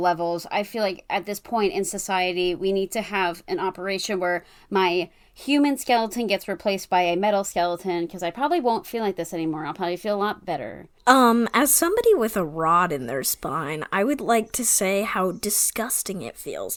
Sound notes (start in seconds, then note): none